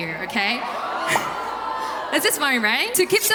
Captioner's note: murmuring